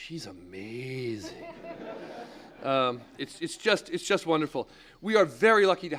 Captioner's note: laugh